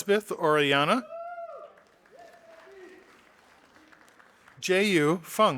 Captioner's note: audience applauding